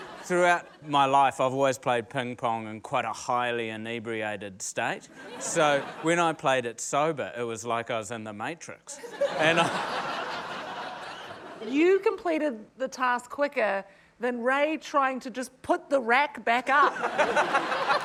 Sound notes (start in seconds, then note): 9.0 laughter; 16.9 laughter, applause